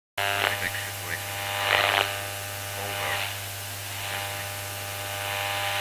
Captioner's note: static whizzing; voice muttering on radio